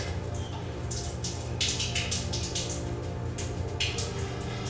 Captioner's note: water trickling